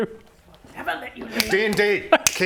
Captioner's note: snap!